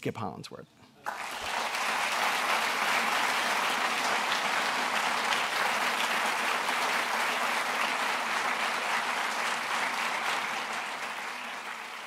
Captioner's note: applause